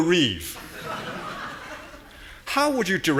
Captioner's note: audience laughing